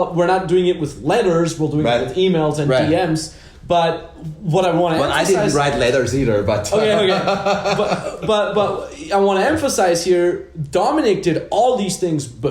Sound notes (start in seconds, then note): 6.6 laughs